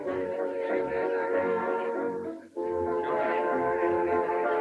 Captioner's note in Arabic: الناس يتحادثون